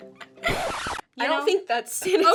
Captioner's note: record scratches